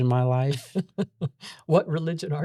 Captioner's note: laughs